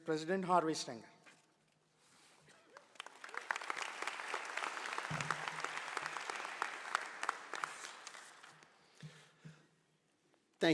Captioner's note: applause